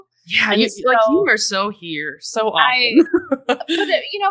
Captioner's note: laughs